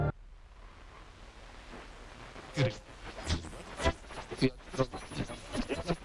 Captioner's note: radio crackles and buzzes